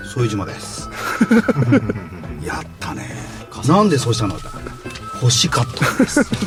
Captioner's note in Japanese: 笑い